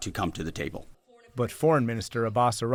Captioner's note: voice-over